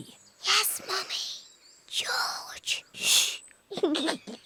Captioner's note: whispers; giggles